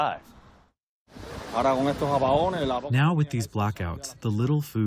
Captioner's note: through translator